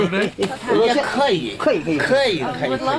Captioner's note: non-english speech